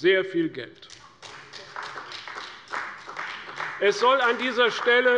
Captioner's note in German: Beifall bei der CDU